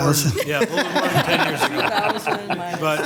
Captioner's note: people laughing